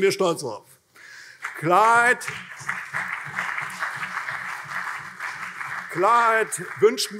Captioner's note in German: Beifall CDU und vereinzelt SPD